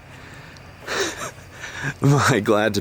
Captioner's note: incredulous chuckle